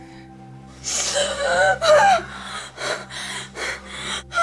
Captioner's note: gasping